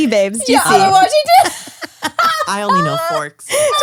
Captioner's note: laughs